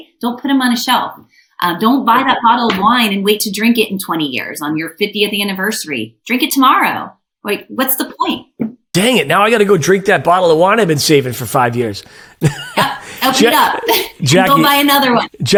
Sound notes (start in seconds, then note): 12.1 chuckles